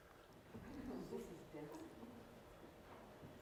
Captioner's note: laughter